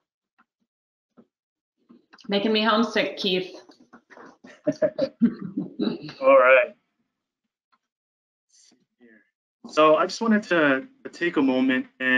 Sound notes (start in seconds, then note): 4.0 laughs; 5.2 both chuckling